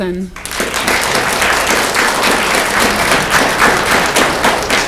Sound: audience clapping

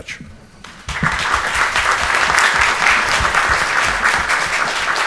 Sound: audience applauds

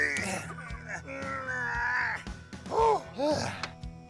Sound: grunting

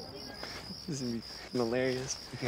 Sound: crickets chirping

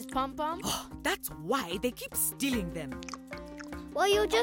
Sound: scoffing

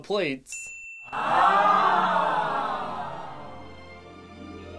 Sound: crowd says aweeeee

